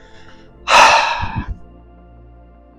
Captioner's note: sigh